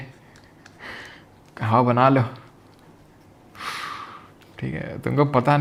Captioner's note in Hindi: गहरी सांस लेने की आवाज़